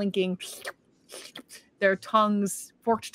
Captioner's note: Deborah slurps